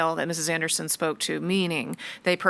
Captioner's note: none